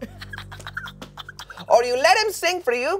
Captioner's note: laughs